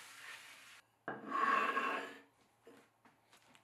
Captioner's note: plate sliding